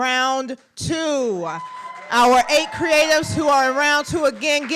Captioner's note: applause